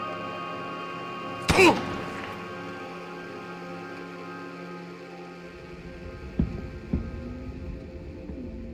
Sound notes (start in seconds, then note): 1.4 gunshot